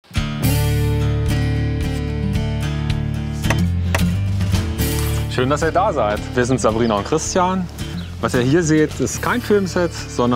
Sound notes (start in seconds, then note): 3.5 knock